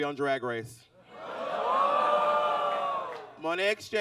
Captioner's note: audience exclaims